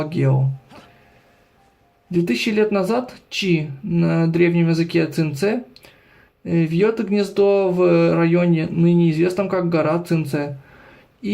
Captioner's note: in the ancient language of Qingce